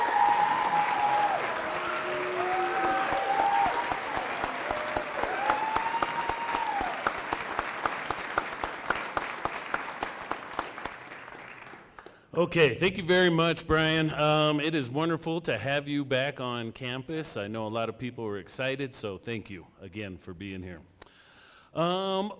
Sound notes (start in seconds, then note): 5.2 cheering and applause